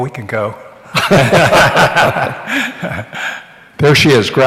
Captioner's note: laughter